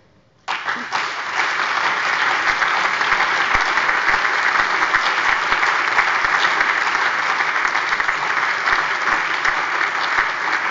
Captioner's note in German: Anhaltender lebhafter allgemeiner Beifall